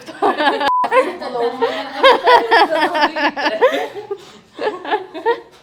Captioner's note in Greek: γέλια